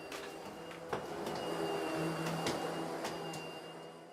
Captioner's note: vacuum cleaning intensifies